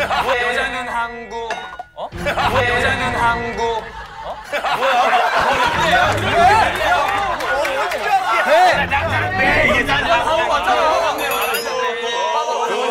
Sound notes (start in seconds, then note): 5.2 complaining